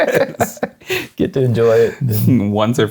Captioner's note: laughing